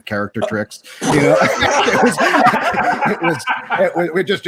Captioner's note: participants laughing